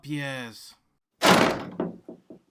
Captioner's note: door slams